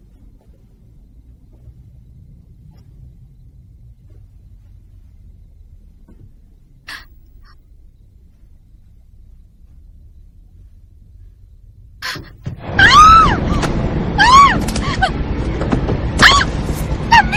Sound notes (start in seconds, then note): 12.6 screams